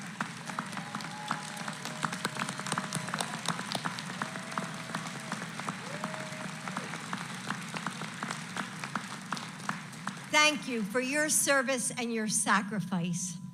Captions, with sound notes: (Applause.) Thank you for your service and your sacrifice.